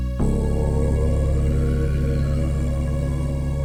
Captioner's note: creature roaring